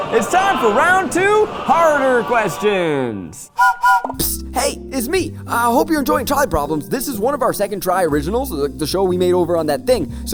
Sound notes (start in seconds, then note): 3.5 train whistle blowing